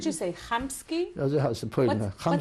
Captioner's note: non-english